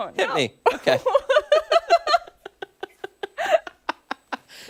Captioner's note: laughter